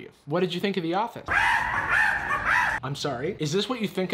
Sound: monkey noises

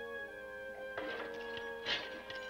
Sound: metal clinking

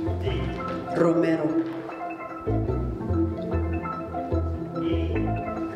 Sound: speaking in Spanish

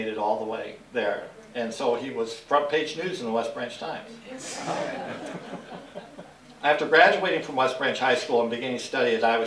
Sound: laughter

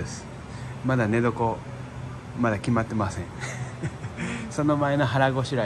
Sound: laughs

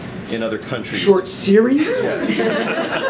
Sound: laughter

